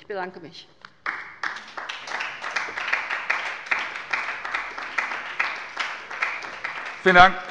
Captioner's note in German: Beifall bei der LINKEN